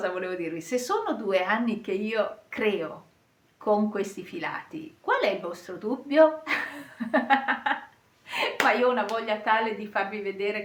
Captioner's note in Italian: risate